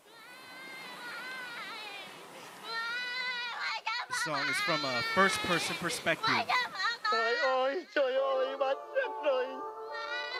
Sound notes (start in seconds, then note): 0.3 recording Of child speaking in Vietnamese; 6.7 recording of adult and child speaking in Vietnamese